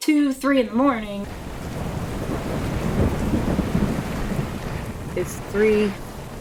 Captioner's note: thunder booming and rain falling